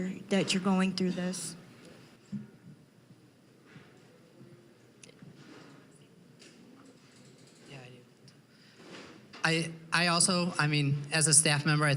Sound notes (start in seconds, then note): none